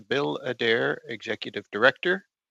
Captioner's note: speaking French